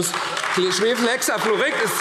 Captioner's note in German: Beifall AfD